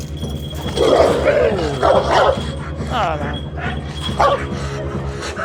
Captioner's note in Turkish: Havlama sesleri ve gerilim müzik